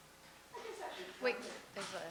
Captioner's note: voiceover